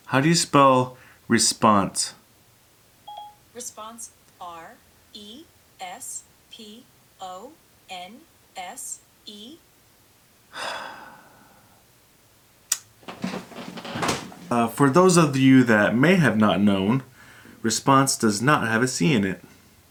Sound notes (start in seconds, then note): 3.0 phone chimes; 10.5 sighs